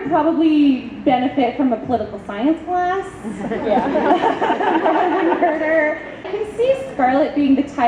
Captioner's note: audience laughs